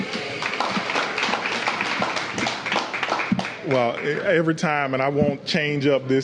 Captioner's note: applause